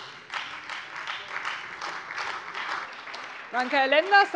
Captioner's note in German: Beifall Freie Demokraten, vereinzelt SPD und AfD